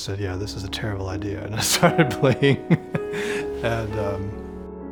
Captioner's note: laughs